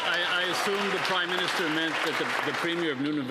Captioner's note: cheering and Applause